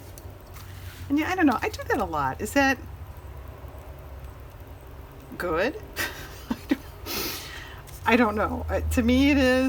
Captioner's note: laughs